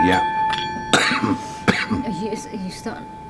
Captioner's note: coughing